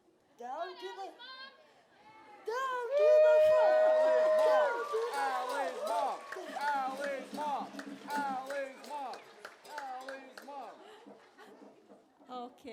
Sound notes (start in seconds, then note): 2.8 cheering; 3.8 chanting